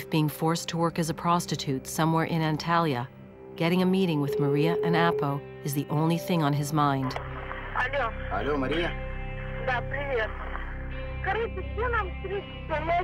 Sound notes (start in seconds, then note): 2.4 phone beeping